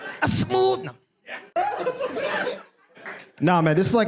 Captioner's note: audience laughs